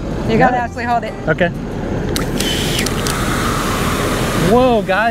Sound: hose gushing water

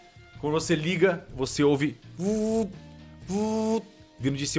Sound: vuup vuup

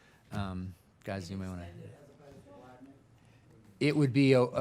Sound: people chattering faintly

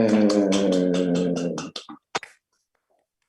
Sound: applause

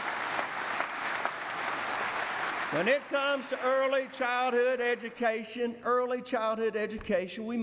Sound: applause

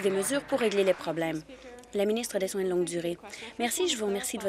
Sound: applause

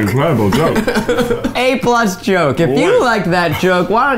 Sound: laughing

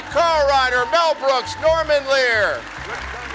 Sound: audience cheering

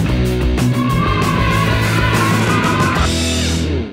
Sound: kids cheering

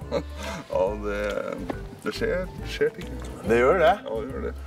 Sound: giggles

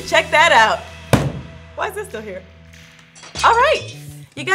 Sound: microphone falling

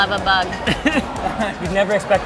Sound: laughing

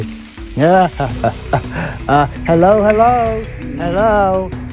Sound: laughing

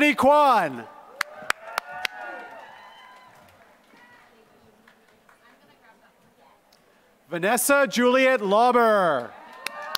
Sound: applause; applause

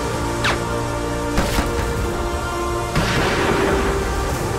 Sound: gun shoots; gun shoots

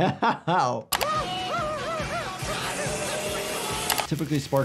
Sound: chainsaw buzzing

